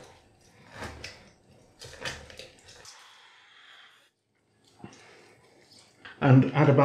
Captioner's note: squish, dribble, dribble